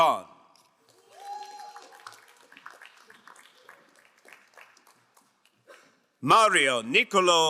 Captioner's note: crowd cheering and applauding